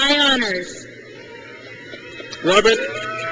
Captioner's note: crowd cheers